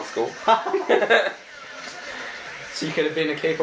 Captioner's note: laughing